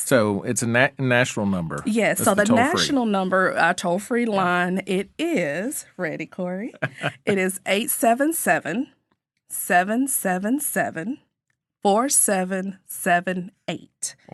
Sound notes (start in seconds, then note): 6.7 laughing